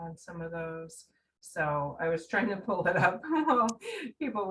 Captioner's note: laughing